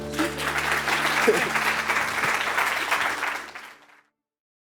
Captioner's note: audience applauding